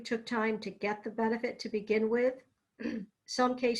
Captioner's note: clears throat